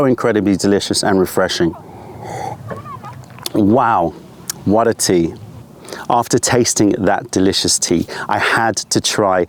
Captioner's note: sips tea